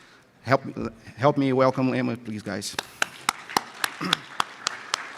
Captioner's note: round of applause from audience